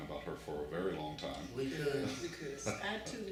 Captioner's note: laughs